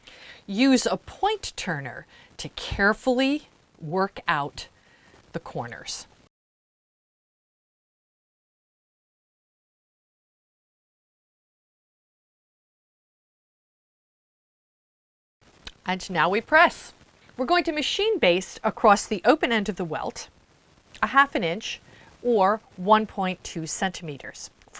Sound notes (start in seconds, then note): 6.2 no Sound Present